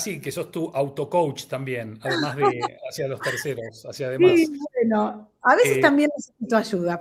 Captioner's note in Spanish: risas